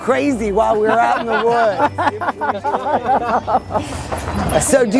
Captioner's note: laughter